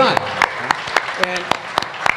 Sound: applause

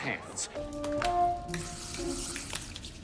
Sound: spray sound; light hearted music

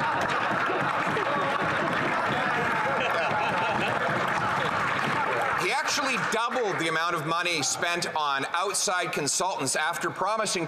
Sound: laughter

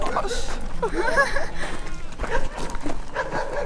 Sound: nervous laughter

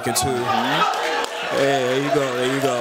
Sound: cheering

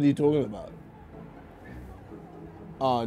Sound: shouting

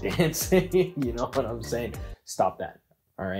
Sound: laughs

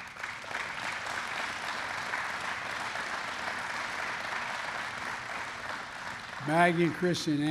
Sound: applause

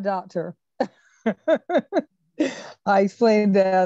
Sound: laughs

